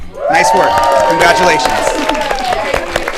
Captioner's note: audience cheering